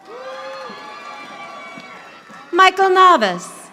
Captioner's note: audience applauding